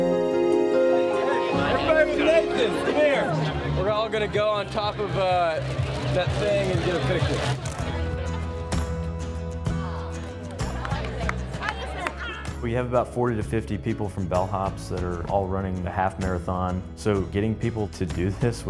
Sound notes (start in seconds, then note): 0.0 bright piano music; 1.6 indistinct chatter; 7.7 upbeat guitar music; 10.9 indistinct chatter